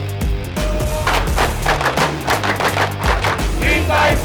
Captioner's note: chants